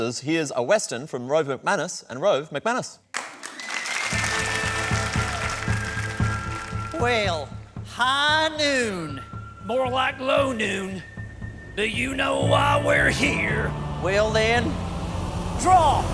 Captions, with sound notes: Here's a Western from Rove McManus and Rove McManus. (APPLAUSE) (WESTERN MUSIC) (WESTERN ACCENT) Well, high noon! (WESTERN ACCENT) More like low noon. Do you know why we're here? Well, then... draw!